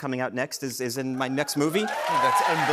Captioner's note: cheers and applause